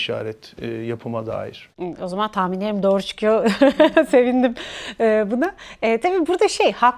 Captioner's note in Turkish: kahkaha